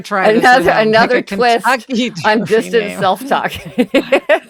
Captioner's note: laughs